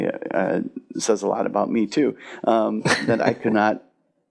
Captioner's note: chuckles